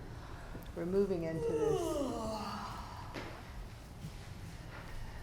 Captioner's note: student yawning